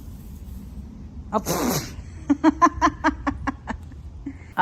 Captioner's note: laughing